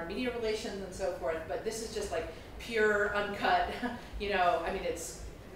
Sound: chuckles

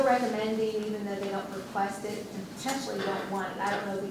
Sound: voiceover

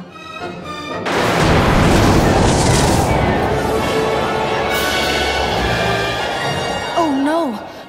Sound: lightning strikes

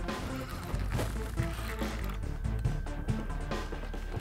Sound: reel spinning

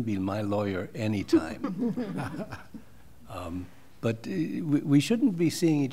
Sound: laughter

